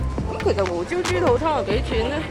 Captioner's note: audio in the supermarket